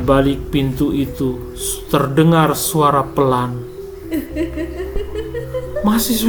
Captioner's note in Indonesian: tertawa